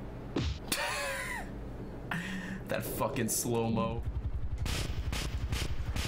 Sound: laughs

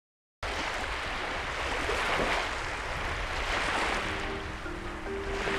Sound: lapping waves

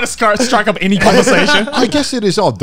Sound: laughing

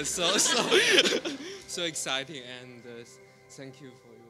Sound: laughter

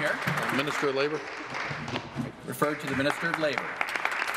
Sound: applause

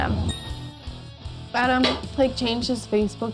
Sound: bell chiming

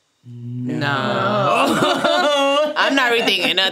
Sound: laughing

